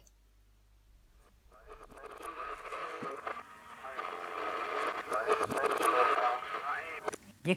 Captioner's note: radio static